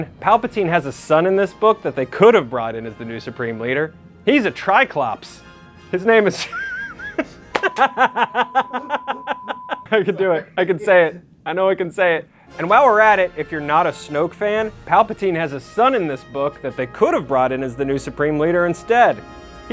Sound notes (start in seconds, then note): 6.4 laughs